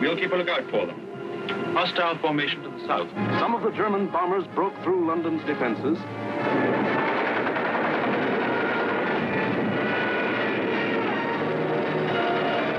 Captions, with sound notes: We'll keep a lookout for them. Hostile formation to the south. Some of the German bombers broke through London's defenses. (dramatic music) (plane engines roar)